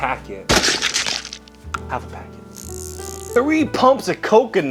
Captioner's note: squishing